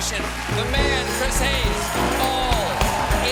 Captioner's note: applause